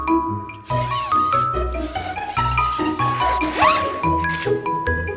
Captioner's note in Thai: เสียงรูดซิปเต็นท์